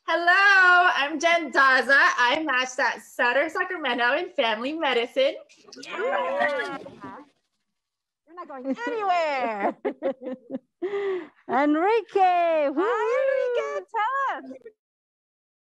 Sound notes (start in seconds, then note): 6.1 cheering